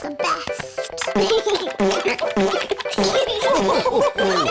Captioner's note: giggles; laughter